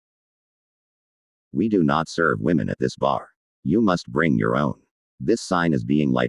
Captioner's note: google tts voice